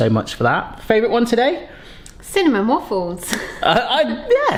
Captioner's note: laughing